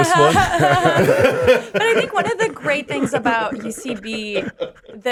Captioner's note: laughing